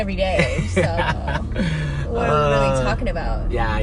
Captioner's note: laughs